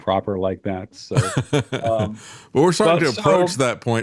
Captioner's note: laughing